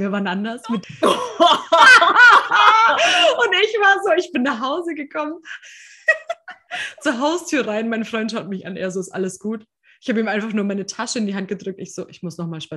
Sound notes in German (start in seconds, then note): 0.0 lachen; 5.9 lacht